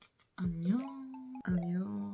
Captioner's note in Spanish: en coreano